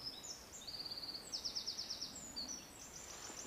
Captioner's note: birds chirping